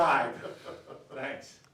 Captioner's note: laughs